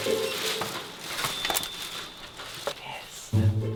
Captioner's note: lock beeping